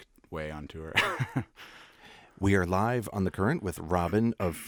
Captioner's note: laughs